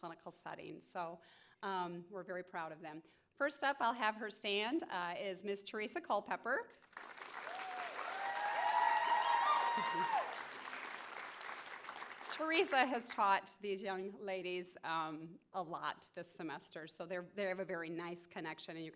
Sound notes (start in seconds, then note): 6.8 applause and cheering